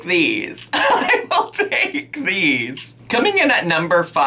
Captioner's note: laughing